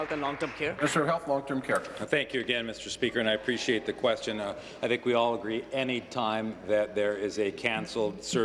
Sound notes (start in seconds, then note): 0.0 applause